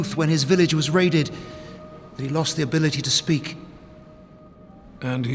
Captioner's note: none